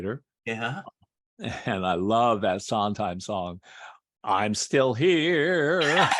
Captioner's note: laughter